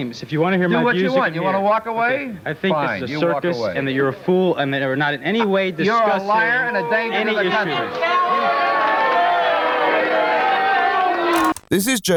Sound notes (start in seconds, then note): 4.0 commotion